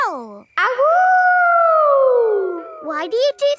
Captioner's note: howling